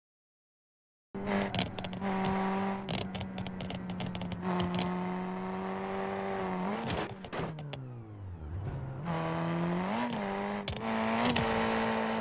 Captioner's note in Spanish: Vroom Vroom noise again